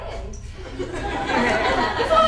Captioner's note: audience laughter